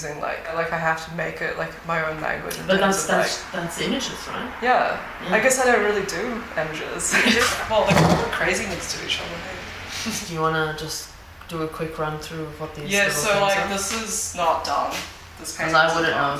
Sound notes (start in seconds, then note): 7.1 laughs; 7.9 object thuds; 10.0 laughs